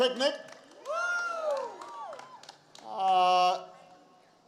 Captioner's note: applause